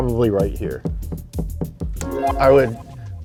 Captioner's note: tapping